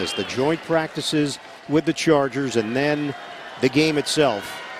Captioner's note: whistle blowing; crowd noise